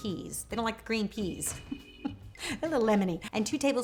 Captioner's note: chuckles